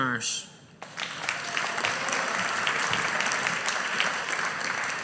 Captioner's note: audience applauding